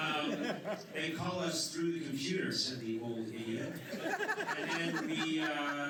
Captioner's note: laughter